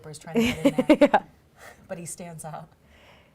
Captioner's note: laughs